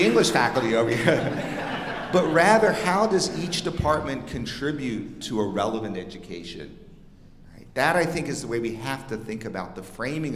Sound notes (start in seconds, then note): 1.8 audience laughing